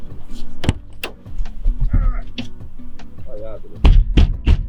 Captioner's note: banging the frozen door